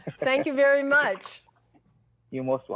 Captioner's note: laughs